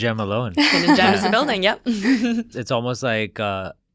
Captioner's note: laughs